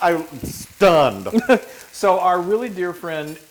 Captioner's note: laugh